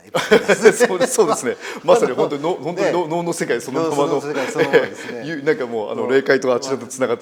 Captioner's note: laugh